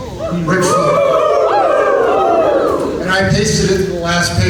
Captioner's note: audience whoops